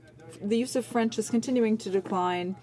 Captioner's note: speaking in French